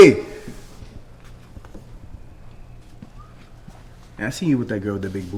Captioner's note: footsteps approaching